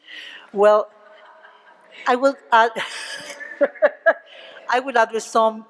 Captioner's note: laughter